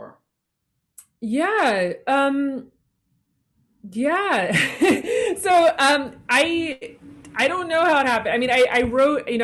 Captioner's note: laughs